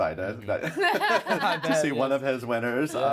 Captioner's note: laughs